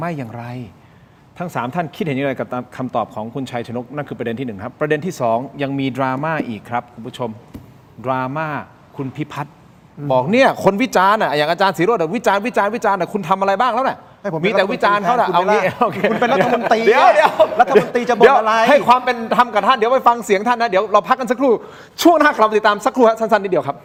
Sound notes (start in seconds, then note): 17.2 laughs